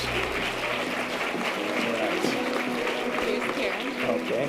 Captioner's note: audience applause